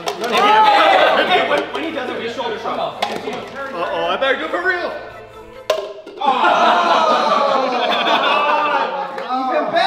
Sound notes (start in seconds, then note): 3.1 cups flipping; 6.2 group shouting